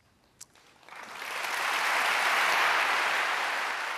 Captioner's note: applause